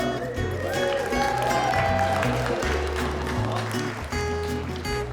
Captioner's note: cheers and applause